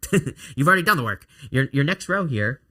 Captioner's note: laughs